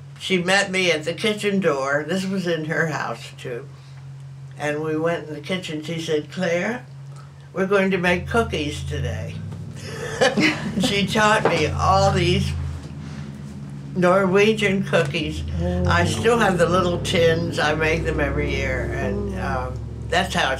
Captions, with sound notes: she met me at the kitchen door. This was in her house, too. And we went in the kitchen, she said, “Claire, we’re going to make cookies today.” [laughter] She taught me all these Norwegian cookies. I still have the little tins, I make them every year. And that’s